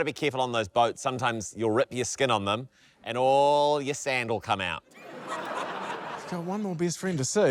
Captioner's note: laughter